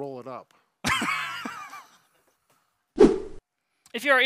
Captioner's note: laughs